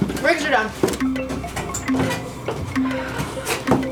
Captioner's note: computer chiming